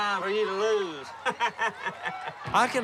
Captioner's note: laughs